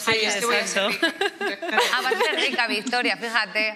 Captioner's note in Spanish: ríe